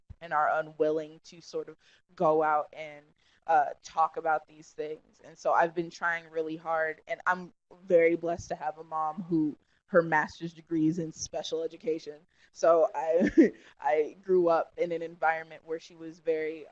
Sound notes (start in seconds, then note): 13.2 chuckles